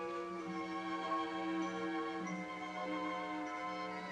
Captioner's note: none